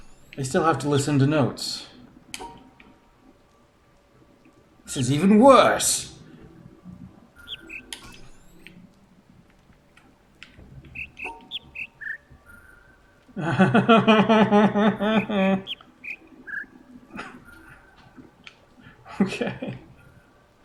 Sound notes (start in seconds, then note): 1.6 bird chirps ˥ ˩; 4.7 bird chirps ˥ ˩; 10.8 bird chirps ˧ ˧ ˥ ˧ ˩; 13.1 whimpers; 14.8 bird chirps ˧ ˧ ˥ ˧ ˩